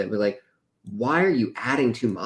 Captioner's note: none